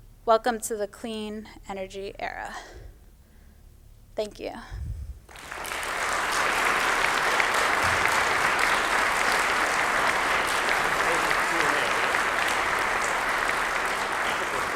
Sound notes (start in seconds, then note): 9.5 applause